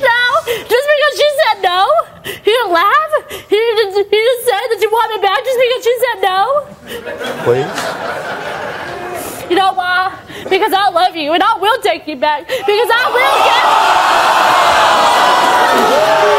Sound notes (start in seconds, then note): 12.8 audience yelling